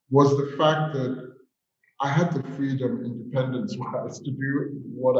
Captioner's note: chuckles